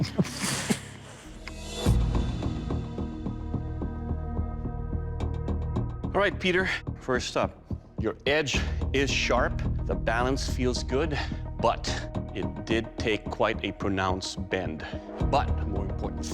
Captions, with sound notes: [chuckles] All right, Peter, first up, your edge is sharp. The balance feels good. But it did take quite a pronounced bend.